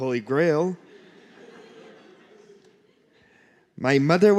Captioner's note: laughter